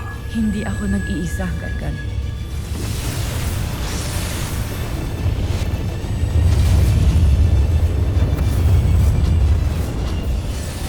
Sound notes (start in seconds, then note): 3.0 ethereal whoosh; 4.7 energy whoosh-crackle; 6.7 epic music playing